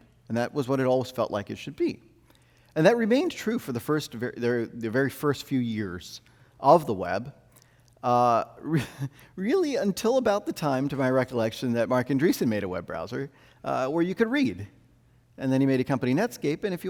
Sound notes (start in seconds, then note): 8.7 chuckles